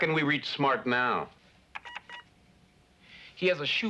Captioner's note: beeps